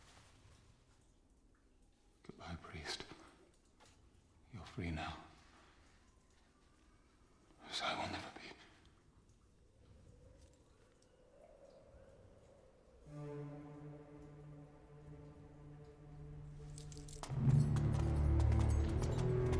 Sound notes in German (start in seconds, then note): 9.5 Windheulen